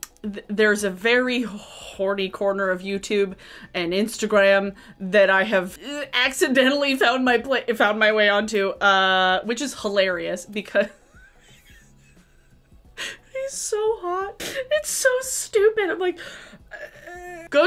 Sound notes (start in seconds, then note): 10.8 laughing